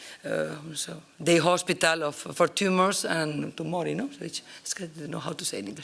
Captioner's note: italian